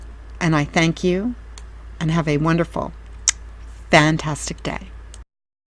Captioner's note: kiss